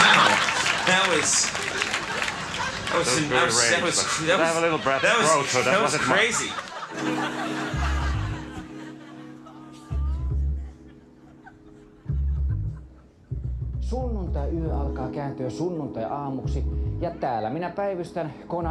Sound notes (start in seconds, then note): 0.0 crowd laughs; 7.5 crowd laughs; 7.5 sultry music; 13.7 speaks in Finnish